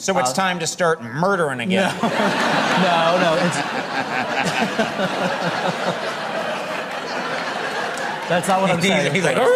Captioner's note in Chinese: 笑聲